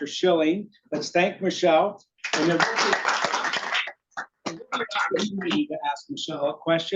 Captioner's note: audience applauding